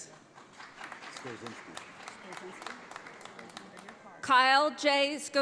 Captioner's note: audience applauds